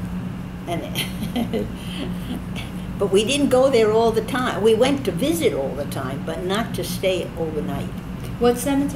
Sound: laughs

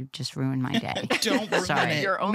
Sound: laughter

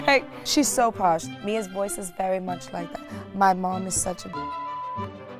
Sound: beep

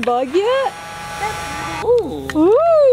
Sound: vacuum whirring

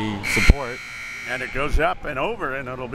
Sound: buzzer

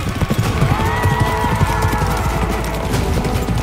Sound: horse neighing

